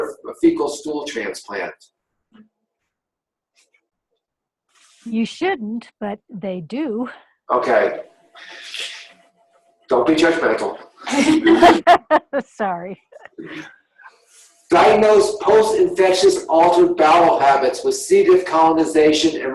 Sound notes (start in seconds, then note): 11.0 laughing